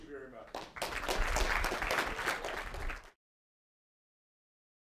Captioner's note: applause